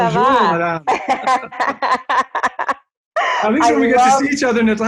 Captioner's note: speaks French